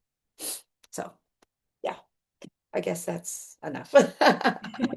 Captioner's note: laughs